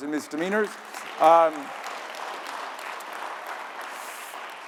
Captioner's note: audience applauding